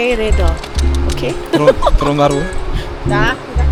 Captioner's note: laugh